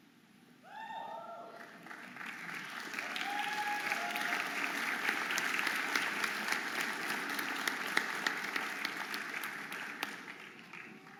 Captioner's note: audience applauding and cheering